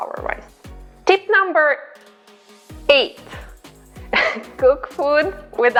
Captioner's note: laughs